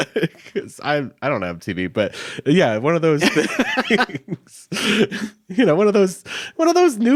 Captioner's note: chuckles